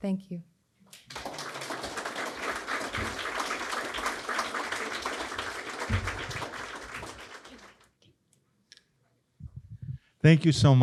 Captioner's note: applause